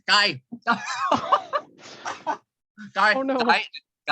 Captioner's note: laughter